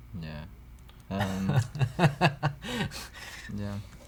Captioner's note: chuckles